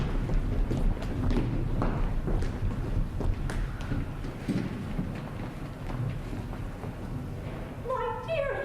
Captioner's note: thunder